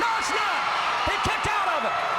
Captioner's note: crowd cheering